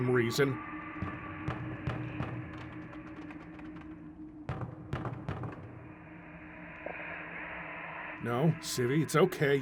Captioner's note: pounding on door